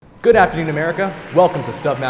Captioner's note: audience applauding